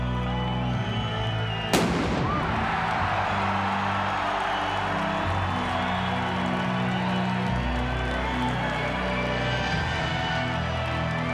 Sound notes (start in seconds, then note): 1.7 explosion booming; 1.9 crowd cheering continues